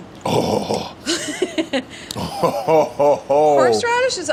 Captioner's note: Deandre grunts